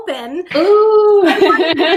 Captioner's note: laughs